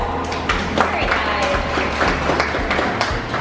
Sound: applause

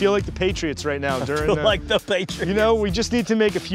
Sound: laughs

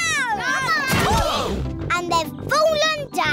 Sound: all groan

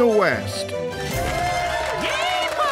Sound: all cheering

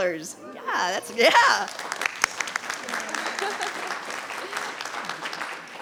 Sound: audience applauding

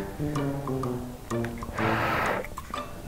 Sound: blows on glue

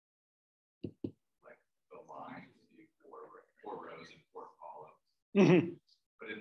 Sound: speaking away from the mic

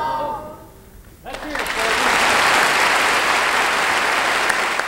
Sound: audience applauding

